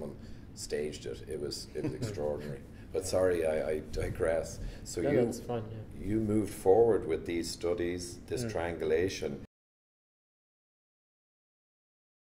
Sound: laughter

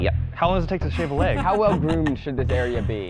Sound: chuckles

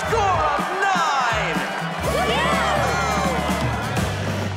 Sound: all cheer

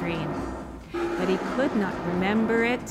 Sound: roaring

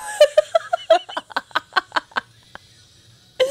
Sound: panel laughing

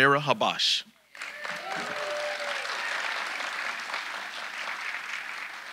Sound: audience applauding

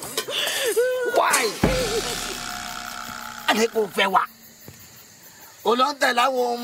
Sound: speaking in foreign language

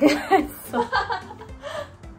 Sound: hahahahahahaha

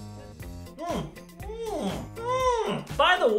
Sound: mmm's that get more and more exaggerated

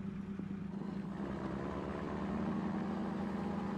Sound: truck engine revs

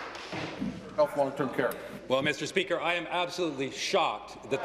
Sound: applause

